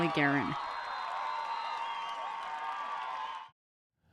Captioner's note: cheers